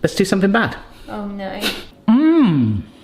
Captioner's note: sniggers